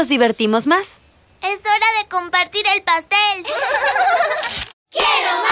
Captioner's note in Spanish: Risas